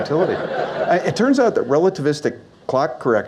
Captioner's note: audience Laughs